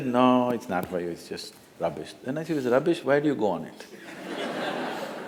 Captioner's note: laughter